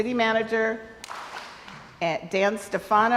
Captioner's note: crowd applauds